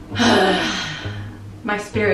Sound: sighing

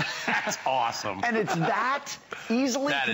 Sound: laughter

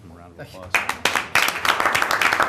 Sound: applause

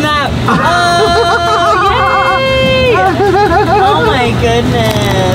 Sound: all chuckling

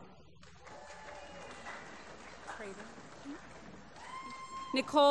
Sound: applause

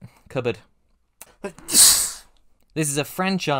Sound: sneeze

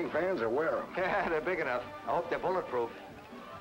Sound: man laughing

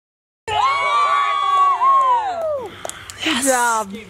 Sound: cheering

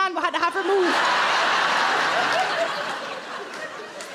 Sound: crowd laugh

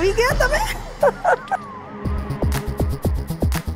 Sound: chuckling

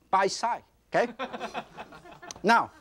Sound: audience laughs

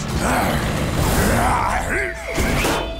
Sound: grunting

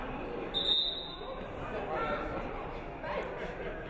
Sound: referee whistles

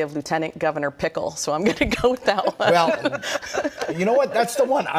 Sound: laughter

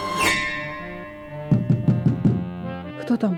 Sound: knock on door

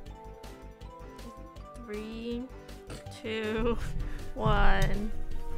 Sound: snorts

